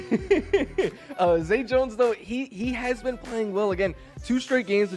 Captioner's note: laughter